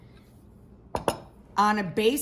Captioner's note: bowl hits counter